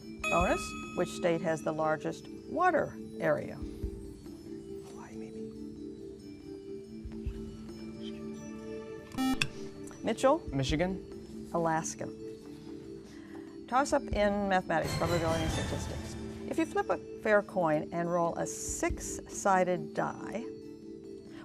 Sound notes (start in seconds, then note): 7.0 whispering; 9.2 buzzer